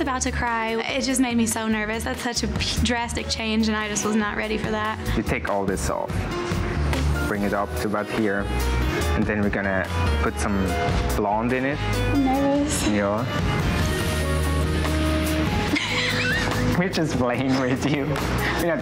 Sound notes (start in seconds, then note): 14.0 laughs